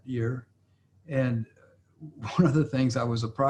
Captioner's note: laughs